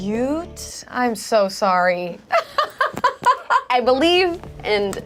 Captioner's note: laughs